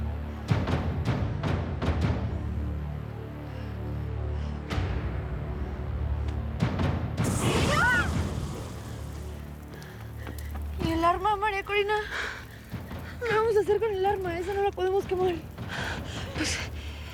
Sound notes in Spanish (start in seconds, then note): 7.2 Explosión; 7.3 Gritos